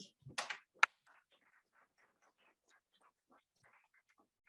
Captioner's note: audience applauds